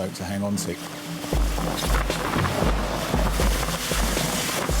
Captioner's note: water splashing